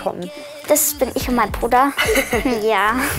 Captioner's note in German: Sie lachen